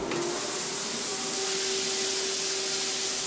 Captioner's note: loud hissing and whirring